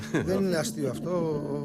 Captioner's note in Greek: γέλια